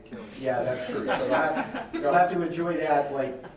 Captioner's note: laughing